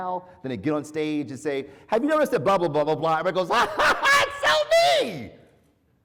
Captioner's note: laugh